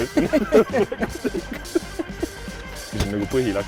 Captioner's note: laughs